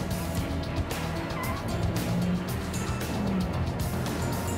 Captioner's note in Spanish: chirrido de gomas